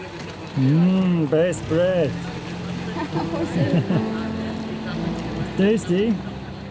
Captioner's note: laughing